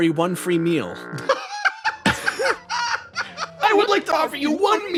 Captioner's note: laugh